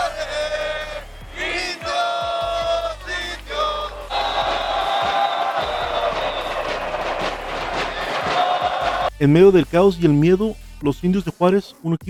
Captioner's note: applause